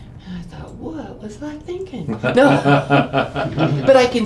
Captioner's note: laughing